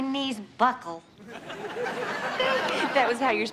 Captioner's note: audience laughs